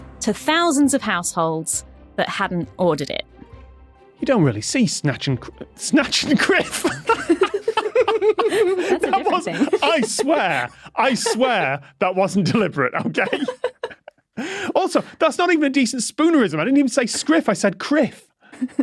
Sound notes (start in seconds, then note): 5.5 laughs; 7.5 group laughing